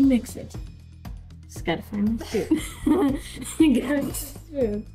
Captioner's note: laughing